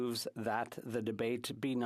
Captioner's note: speaking French